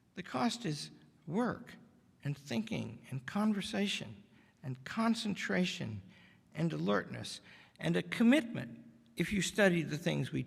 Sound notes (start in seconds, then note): none